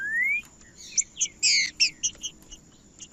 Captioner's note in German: trinca ferro cantando